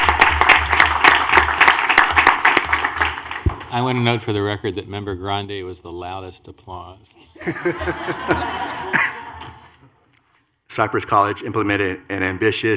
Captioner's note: clapping